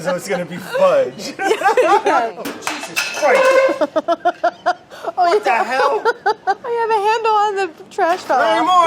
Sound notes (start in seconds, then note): 0.3 laughs; 3.6 laughing